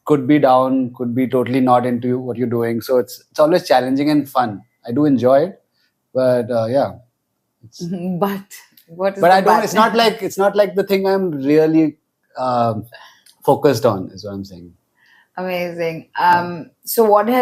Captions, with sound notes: could be down, could be totally not into what you're doing. So it's, it's always challenging and fun. I do enjoy it, but, uh, yeah. Mm-hmm. But, what is the bad thing? [laughs] But I don't... It's not like, it's not like the thing I'm really, um, focused on -is what I'm saying. -Amazing. Um, so what has been your